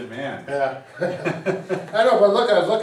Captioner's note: both chuckles